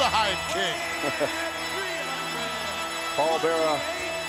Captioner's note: chuckles